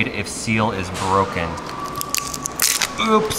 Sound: plastic peeling

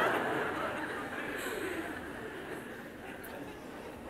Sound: laughter

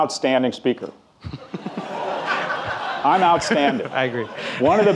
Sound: audience laughing

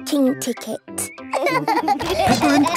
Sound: laughing

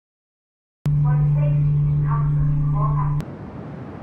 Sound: safety announcement on PA system

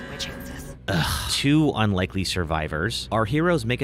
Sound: groans

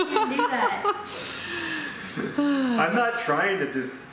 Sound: laughter

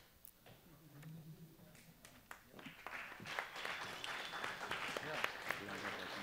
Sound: applause

